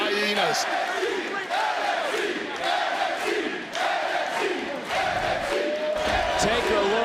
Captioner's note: crowd chants "nxt"